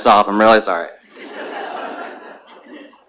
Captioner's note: laughter